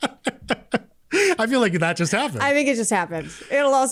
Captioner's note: laughter